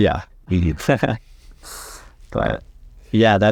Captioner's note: laughs